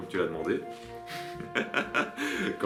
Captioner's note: laughs